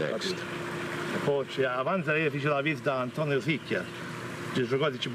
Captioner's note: speaking foreign language